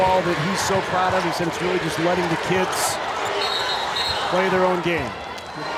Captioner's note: whistle blows